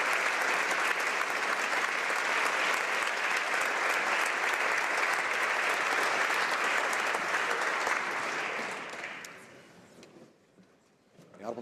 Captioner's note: applause